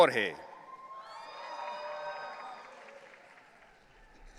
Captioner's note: audience cheering